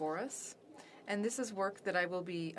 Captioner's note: speaking French